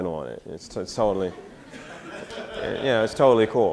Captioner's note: audience laughter